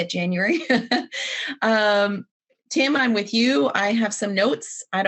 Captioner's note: laughs